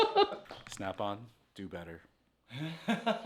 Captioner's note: laughing